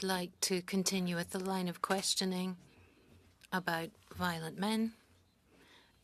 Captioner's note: speaking French